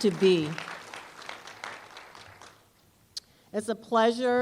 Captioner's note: applause